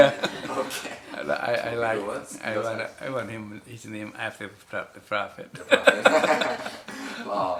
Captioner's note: laughs